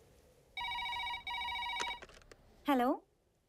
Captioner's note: phone ringing